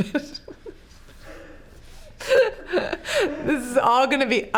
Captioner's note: laughing